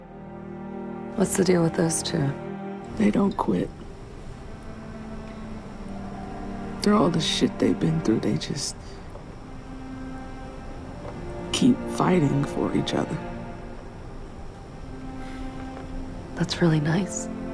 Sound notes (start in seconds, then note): 1.1 voiceover